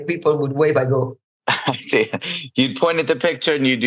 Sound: laughs

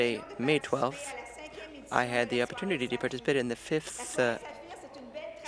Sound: speaking French

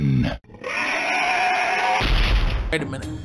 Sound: roar

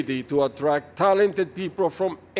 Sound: none

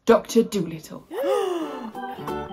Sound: gasps

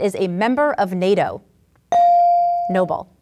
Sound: ding

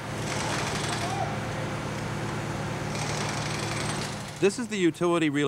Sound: machine grating

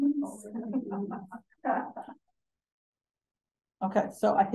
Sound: participant laughing

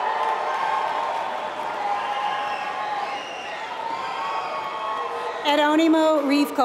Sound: applause

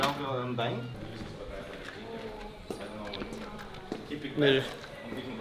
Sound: players chattering; footsteps thumping; person speaks in foreign language

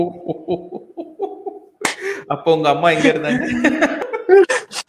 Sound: laughs

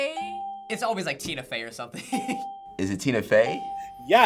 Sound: laughs

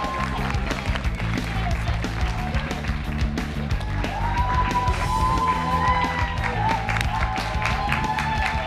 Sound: cheers and applause

